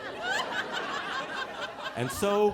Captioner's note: audience laughing